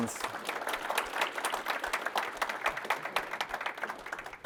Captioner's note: applause